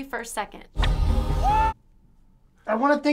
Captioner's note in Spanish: grito